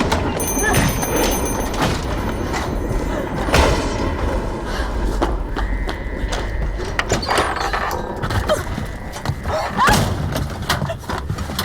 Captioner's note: thunder & lightning